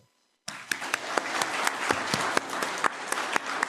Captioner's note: applause